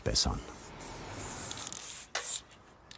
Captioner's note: hissing spray noise